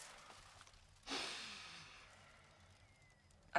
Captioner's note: Radovan sighs